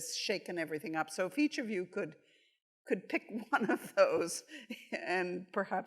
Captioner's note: chuckles